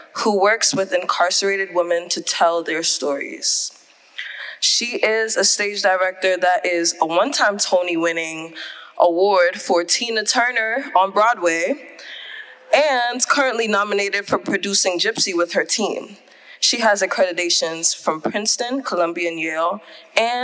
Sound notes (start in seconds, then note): none